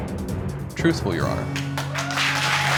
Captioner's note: audience applauding, cheering